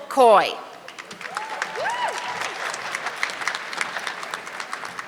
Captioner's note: audience clapping